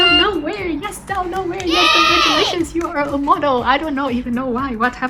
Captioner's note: vỗ tay